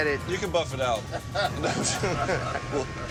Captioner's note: laughter